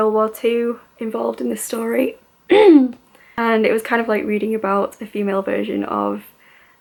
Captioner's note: clears throat